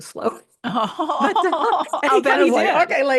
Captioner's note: laughter